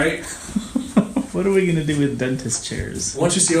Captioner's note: chuckling